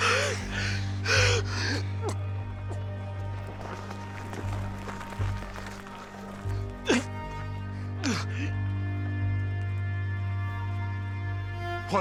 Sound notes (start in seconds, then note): 0.2 panting breaths; 6.8 choking